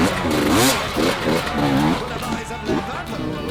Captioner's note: engine roaring